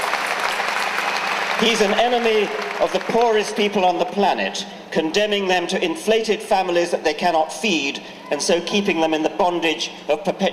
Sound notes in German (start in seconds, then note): 2.0 Jubeln